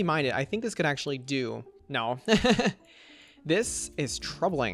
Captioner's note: laughs